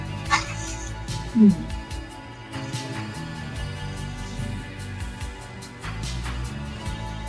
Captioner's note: prolonged kissing